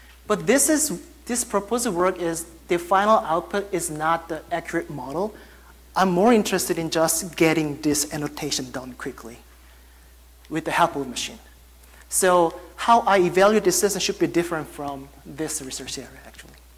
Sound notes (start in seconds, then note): none